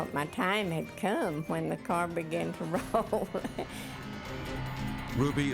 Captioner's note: chuckling